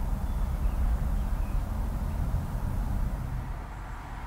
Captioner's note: birds chirping